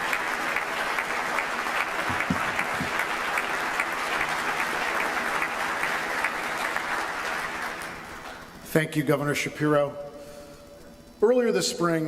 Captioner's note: applause